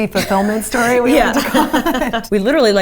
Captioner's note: laughter